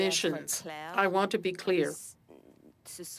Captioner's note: speaking french